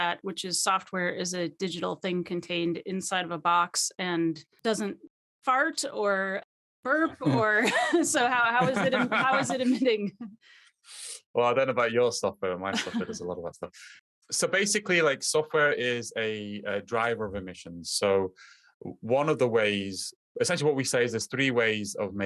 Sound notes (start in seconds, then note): 8.5 laughing